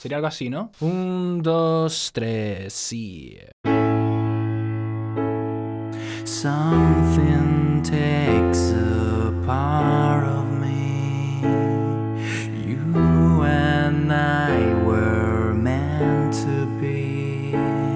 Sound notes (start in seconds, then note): 12.3 makes sound from the song